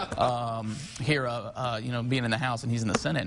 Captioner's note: laughing